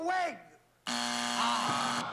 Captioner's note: buzzer